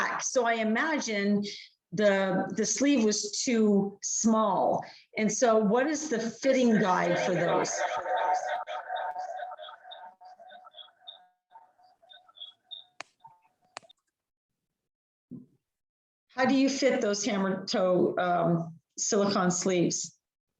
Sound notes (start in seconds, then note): 6.6 microphone distortion